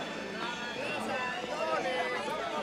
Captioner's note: indistinct chatter